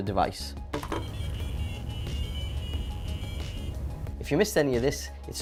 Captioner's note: AdaFruit tones